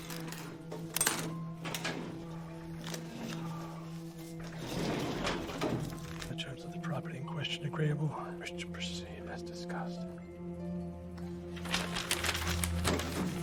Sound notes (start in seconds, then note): none